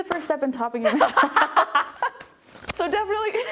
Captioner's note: laughing